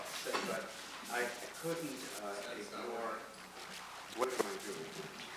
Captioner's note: voiceover